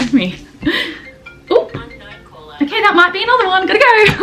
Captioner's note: phone rings again